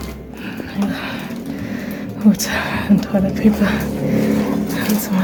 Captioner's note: out of breath